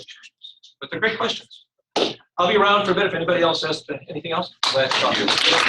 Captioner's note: applause